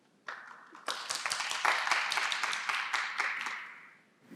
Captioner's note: applause